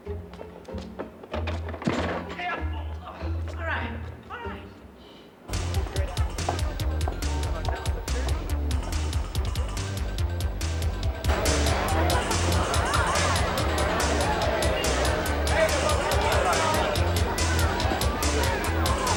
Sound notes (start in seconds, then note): 5.2 upbeat dance music playing; 10.4 indistinct chatter